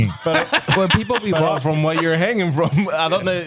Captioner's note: laughing